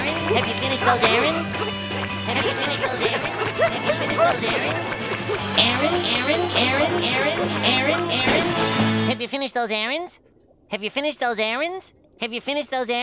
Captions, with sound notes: Have you finished those errands? [echoing] Have you finished those errands? [echoing] Errands, errands, errands... Have you finished those errands? Have you finished those errands? Have you finished those errands?